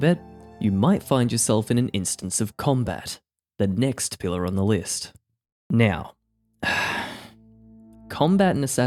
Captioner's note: sigh